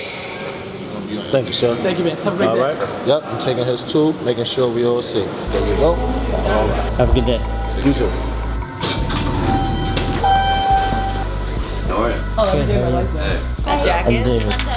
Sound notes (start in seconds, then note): 10.2 elevator dings; 11.8 people talking